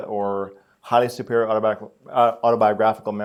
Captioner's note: none